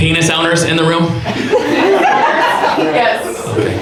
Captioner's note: audience laughs